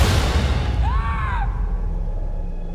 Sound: screaming

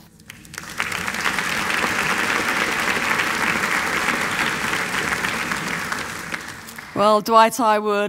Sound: applause

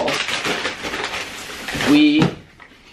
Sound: plastic crinkling

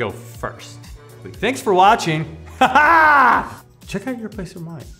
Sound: laughs

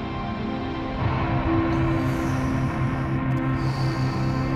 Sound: Paul breathing deeply

